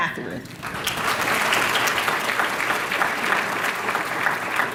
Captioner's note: applause